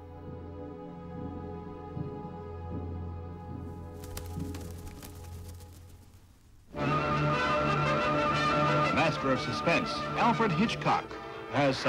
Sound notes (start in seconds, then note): 3.7 rustling; 6.8 dramatic music